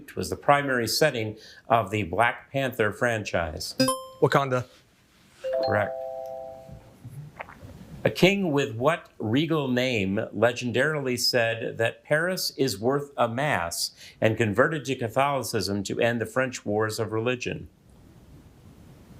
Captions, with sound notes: was the primary setting of the "Black Panther" franchise? (buzzer ringing) - Wakanda. (bell ringing) - Correct. A king with what regal name legendarily said that "Paris is worth a mass" and converted to Catholicism to end the French Wars of Religion?